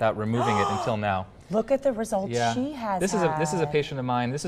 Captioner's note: news Anchor gasping